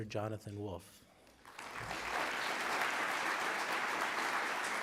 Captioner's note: applause